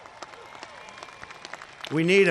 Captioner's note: applause